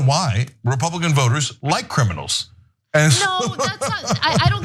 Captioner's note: laugh